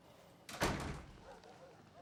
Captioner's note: door closing